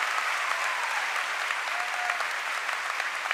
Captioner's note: cheering and applause